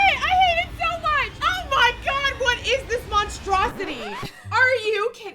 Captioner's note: record scratch